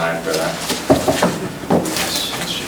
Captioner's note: knocks on desk